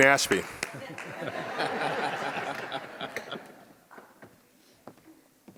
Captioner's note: audience laughs